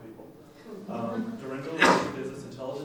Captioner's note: laughing